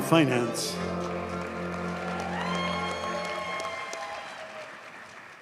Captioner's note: audience cheers and applauds